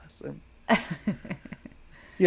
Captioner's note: laughs